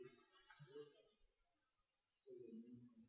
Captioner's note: none